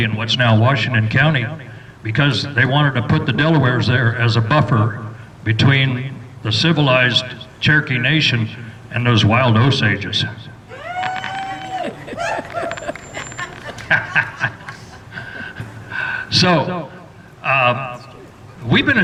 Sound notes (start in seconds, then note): 10.6 cheers and laughter